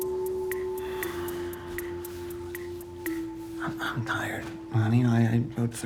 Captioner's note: sighs